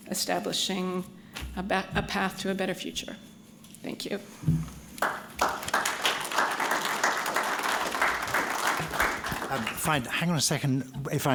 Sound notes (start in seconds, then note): 5.0 applause